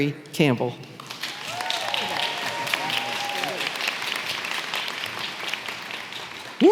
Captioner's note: audience clapping and cheering